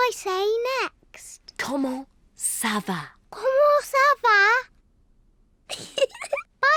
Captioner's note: giggles